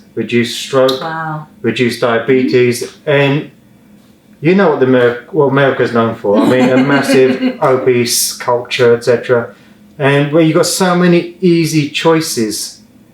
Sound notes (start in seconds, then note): 6.3 laughs